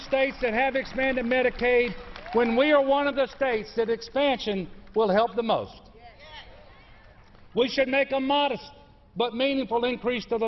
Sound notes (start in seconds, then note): 2.2 applause